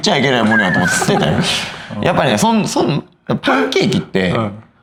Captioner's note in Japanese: 笑い